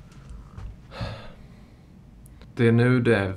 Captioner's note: heavy sigh